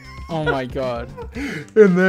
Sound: laughing

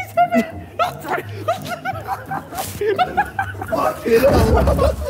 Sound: Sidemen laughing

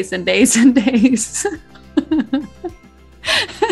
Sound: both laugh

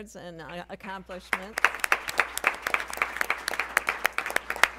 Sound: applause

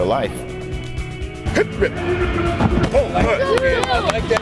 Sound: coaches Voices

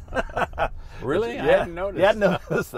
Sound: both laughing

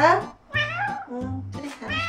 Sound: meow

